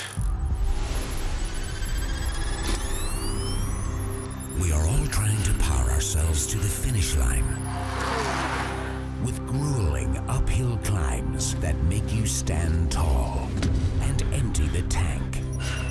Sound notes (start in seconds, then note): 0.0 electronic beeping; 0.2 heartbeats; 15.7 warning beeps